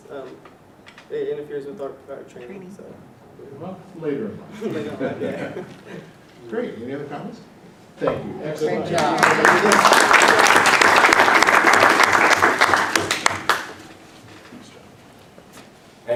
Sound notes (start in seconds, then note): 4.5 laughter; 8.8 applause